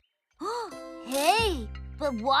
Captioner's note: gasps